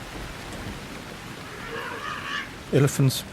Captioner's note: trumpeting